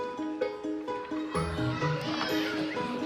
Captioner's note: squeals